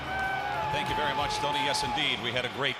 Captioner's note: crowd cheering